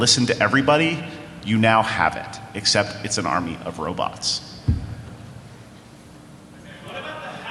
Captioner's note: off mic